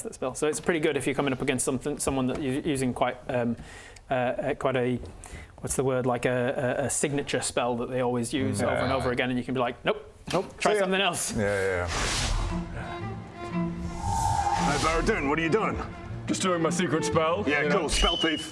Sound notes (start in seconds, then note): 14.0 whooo